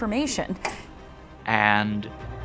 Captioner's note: TV clicking